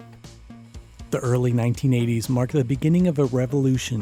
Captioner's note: voiceover